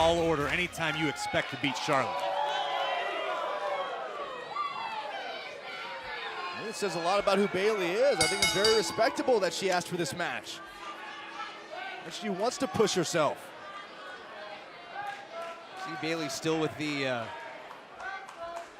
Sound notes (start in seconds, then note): 2.9 cheers & applause; 8.2 bell